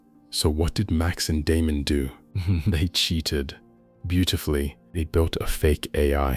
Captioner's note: chuckles